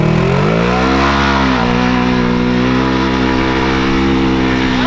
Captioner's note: ATV engine roaring